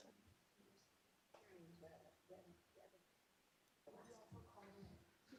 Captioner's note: softly talking off mic